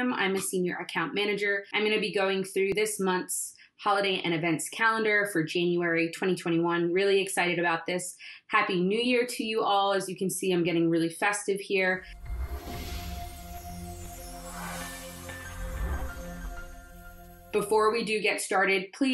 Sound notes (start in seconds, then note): 12.0 logo swooshes; 12.1 melancholic music